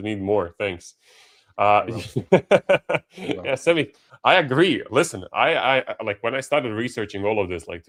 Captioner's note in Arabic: ضحك